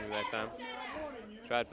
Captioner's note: crowd chatter